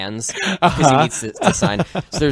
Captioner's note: laughs